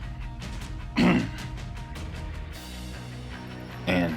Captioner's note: clears throat